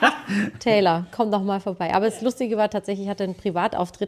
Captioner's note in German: gelächter; räuspern